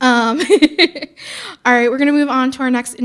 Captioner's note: laughing